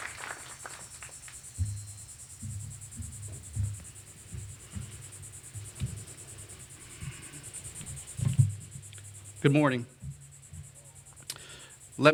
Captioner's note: applause